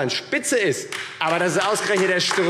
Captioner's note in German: Beifall AfD